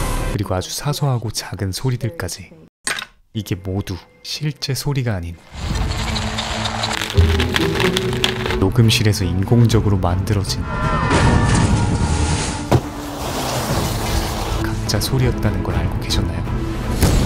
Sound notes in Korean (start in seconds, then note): 6.7 양배추로 만든 소리